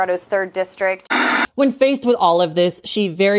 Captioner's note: static